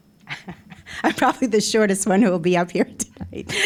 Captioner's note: laughing